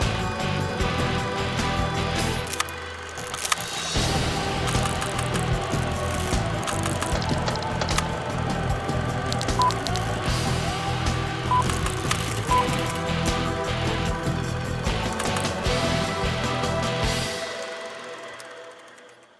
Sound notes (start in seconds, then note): 2.6 movie projector continues rattling; 9.6 screen beeping; 13.0 dramatic rock music continues